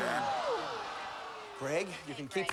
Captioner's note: audience groans